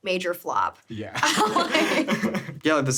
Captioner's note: laughing